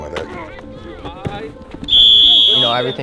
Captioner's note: whistle